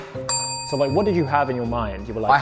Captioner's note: bell dings